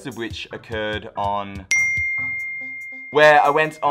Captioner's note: dings